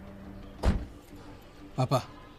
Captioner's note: car door closes